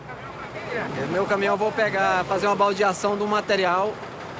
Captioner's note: Portuguese spoken audio